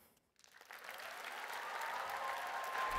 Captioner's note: applause